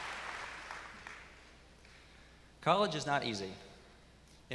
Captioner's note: applause